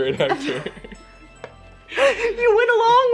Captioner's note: Elle and Justice laughs